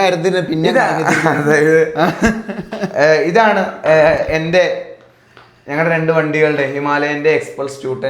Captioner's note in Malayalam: പൊട്ടിച്ചിരി